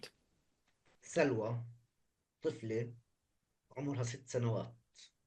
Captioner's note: speaking arabic